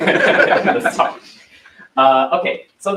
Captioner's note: laughter